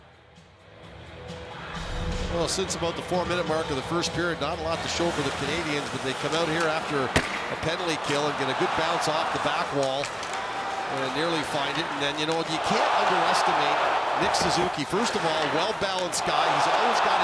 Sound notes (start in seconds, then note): 3.1 cheering and applause